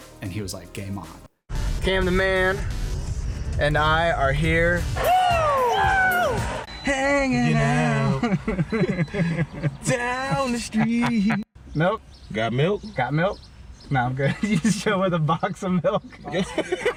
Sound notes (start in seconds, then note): 7.5 both laughing; 14.2 laughs